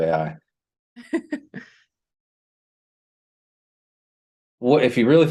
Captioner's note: laughter